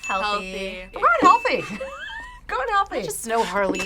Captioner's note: laughs